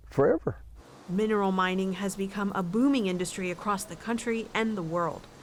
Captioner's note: voice-over